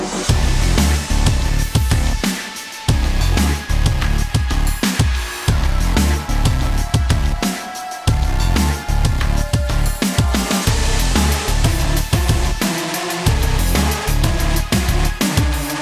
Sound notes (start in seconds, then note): none